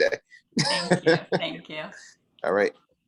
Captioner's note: laughs